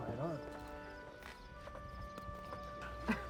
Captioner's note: laughs